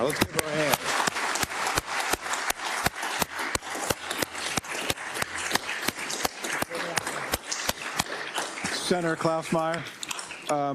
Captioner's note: applause